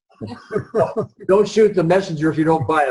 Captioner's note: all laugh